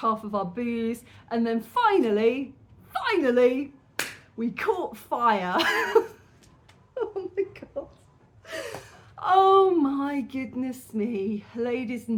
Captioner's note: laughing